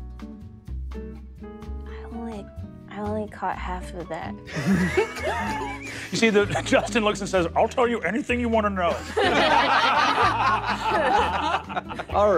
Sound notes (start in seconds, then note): 4.5 players laughing; 9.0 players laughing